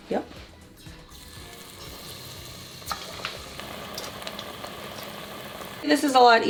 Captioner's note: sound of corn dog frying